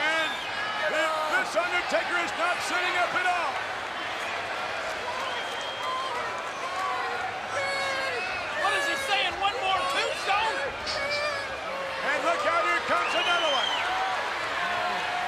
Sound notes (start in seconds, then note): 5.6 applause